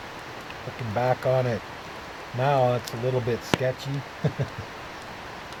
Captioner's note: laughter